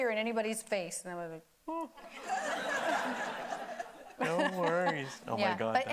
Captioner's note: audience laughing; laughing